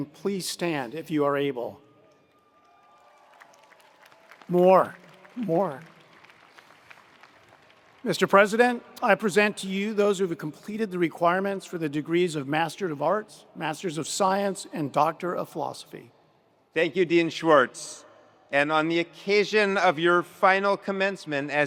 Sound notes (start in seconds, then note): 2.4 attendees cheering; 2.6 attendees applauding